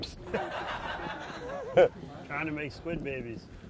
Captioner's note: recorded laughter; laughs